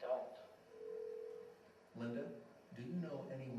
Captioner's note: phone ringing